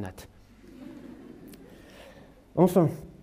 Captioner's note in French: rires